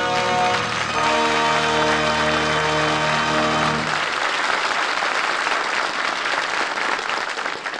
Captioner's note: applause